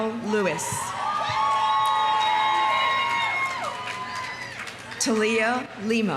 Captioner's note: audience cheering; audience applauding